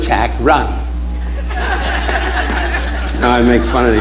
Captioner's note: audience laughing